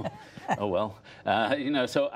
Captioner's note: laughter